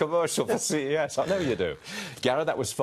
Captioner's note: laughter